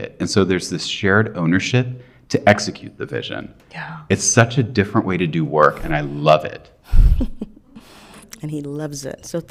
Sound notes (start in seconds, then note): 6.9 chuckles